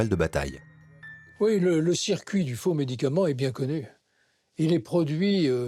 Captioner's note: French spoken audio